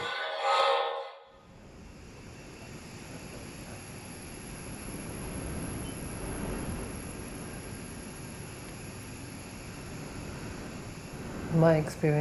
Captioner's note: hissing gas sounds